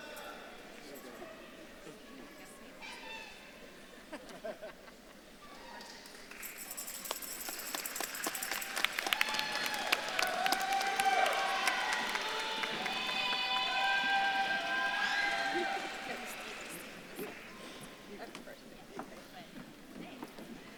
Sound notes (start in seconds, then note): 6.3 bells jingle; 6.8 audience claps and cheers